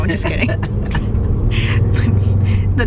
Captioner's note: laughing